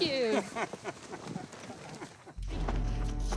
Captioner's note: laughs; dramatic suspenseful music